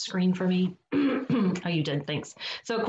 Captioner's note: clears throat